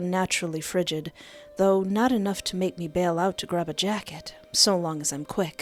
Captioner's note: none